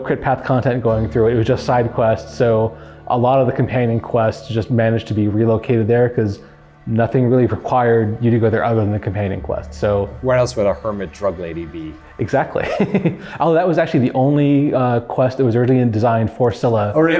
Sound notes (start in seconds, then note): 12.5 laughing